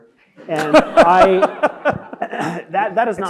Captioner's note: laughing